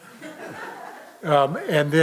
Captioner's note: audience laughing